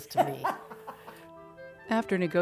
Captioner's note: laughing